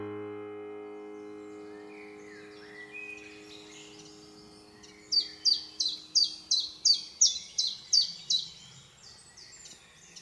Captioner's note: forest noises